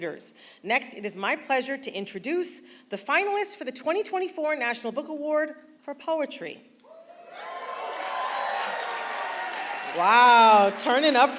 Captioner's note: applause